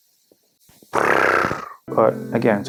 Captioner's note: diarrhea noises